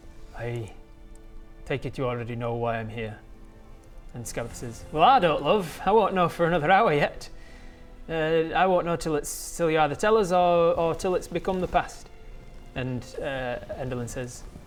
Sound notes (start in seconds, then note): none